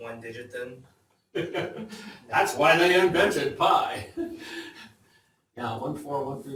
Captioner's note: laughs